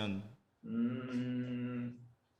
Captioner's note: MMMMs intently